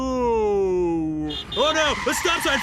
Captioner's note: car horn; brakes screeching